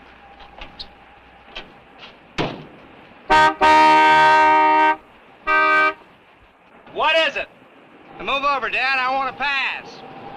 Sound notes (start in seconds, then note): 3.2 horn honking